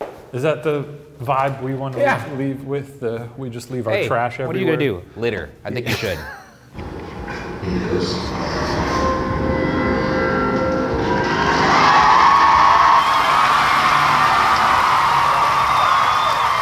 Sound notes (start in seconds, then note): 5.8 laughs; 8.3 logo whooshing; 10.4 crowd cheering and applauding